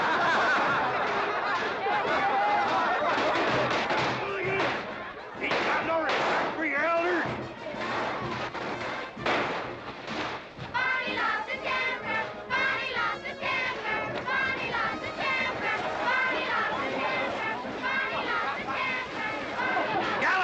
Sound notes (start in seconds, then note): 0.0 children laughing; 7.7 firecrackers popping; 10.7 children chanting